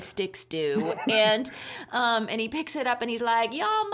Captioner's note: chuckling